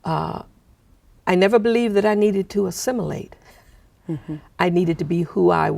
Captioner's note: laughing